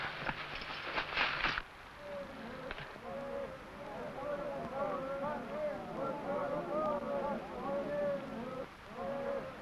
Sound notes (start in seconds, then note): 3.0 men shouting